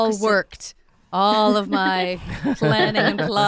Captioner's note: giggling